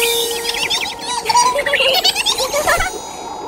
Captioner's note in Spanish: Risas